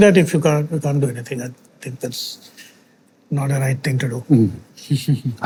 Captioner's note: chuckles softly